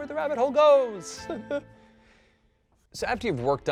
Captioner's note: pained laugh